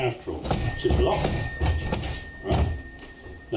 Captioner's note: clanging bell sounds